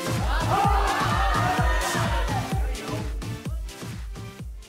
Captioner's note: crowd cheers